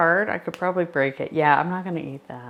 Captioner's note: candy snapping